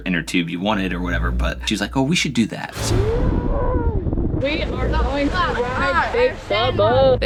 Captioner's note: screaming